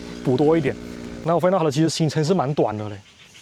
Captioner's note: throttle opening